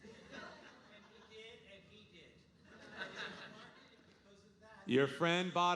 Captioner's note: audience laughing